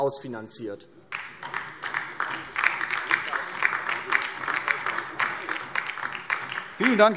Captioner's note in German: Beifall DIE LINKE